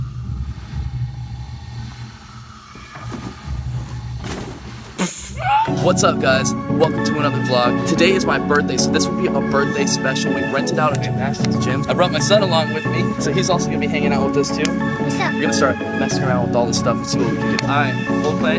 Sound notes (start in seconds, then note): 5.0 laughing